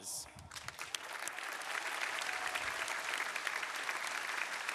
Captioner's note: crowd applauding